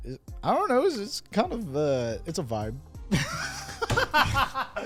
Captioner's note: laughs